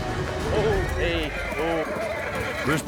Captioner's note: horse neighs wildly